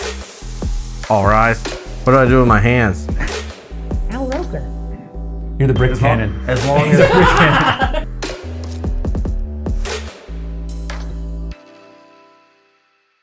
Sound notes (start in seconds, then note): 6.8 laughter